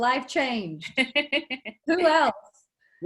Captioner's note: laughing